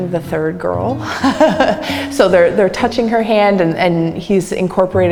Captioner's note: laughs